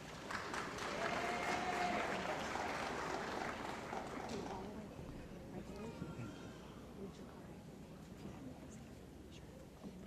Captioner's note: cheering & Applause